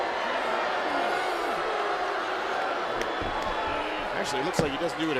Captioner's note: crowd chatter